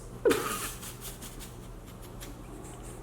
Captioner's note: laughing